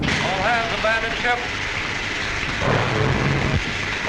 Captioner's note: voiceover